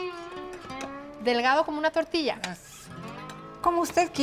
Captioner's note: both speaking Spanish